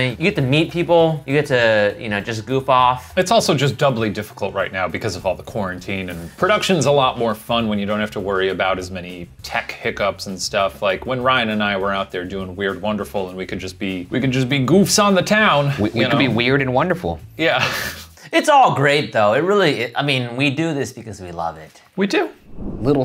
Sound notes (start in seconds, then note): 17.8 laughing